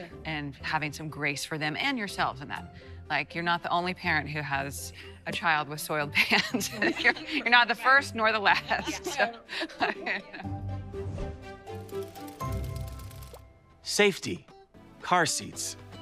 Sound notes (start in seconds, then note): 8.6 laughing